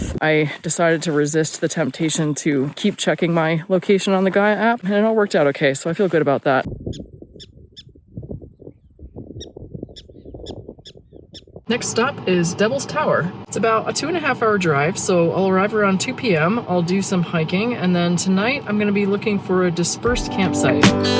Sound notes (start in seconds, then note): 7.0 prairie dog squeaking